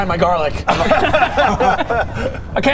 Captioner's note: unkind laughter